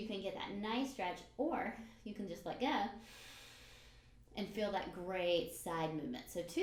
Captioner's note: breathes in